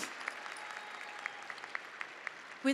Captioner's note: audience applauding and cheering